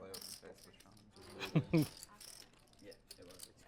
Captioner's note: laugh